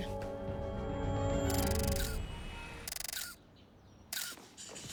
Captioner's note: <i> camera shutter clicking</i>